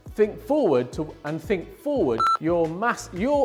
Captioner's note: beep